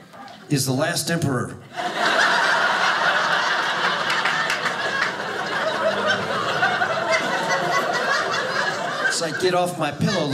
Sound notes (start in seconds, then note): 1.7 audience laughing